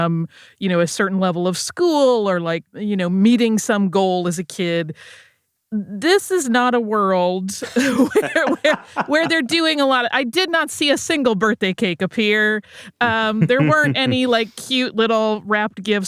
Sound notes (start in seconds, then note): 7.6 both laugh